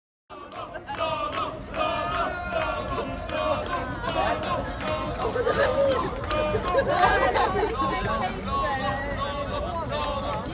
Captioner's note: clapping and shouting from protesters